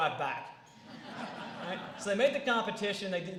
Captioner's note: laughter